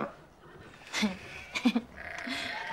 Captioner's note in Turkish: Gülüyor